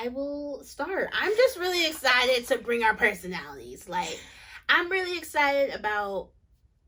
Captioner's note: none